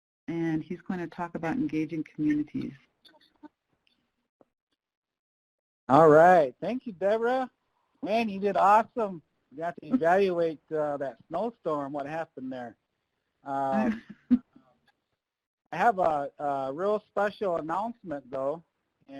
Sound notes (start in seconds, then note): 13.5 laughing